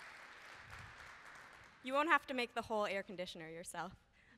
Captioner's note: applause